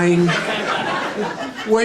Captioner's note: audience laughing